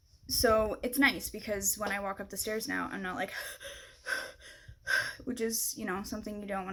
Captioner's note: huffing